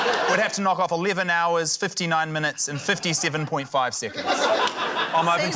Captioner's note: laughter